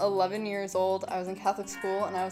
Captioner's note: bells ringing